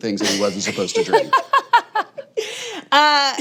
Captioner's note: all laughing